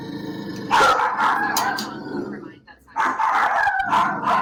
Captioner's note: dog barks